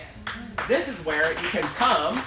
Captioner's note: applause